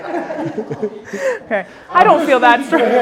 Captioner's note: audience laughing